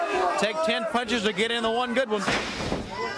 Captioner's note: crowd chatter